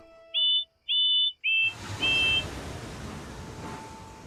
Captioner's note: bill and ben whistle